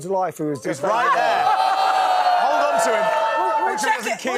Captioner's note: audience oohs